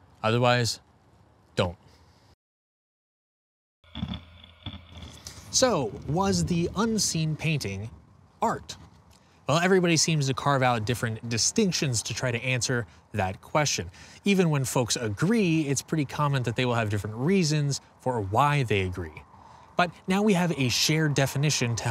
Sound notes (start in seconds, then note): 4.0 grinding